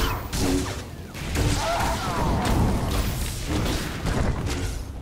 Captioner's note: grunting